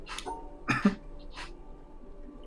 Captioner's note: coughs